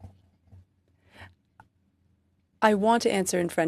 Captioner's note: speaking French